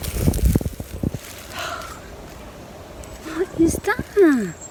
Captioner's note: exhales